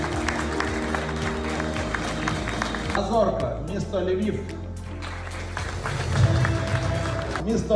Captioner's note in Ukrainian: оплески; оплески